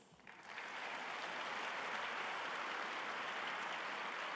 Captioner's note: audience applauding